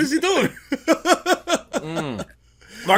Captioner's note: laughs